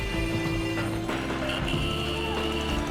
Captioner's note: horns blaring